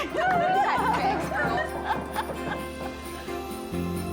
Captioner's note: laughing